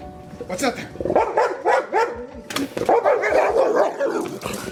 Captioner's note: barking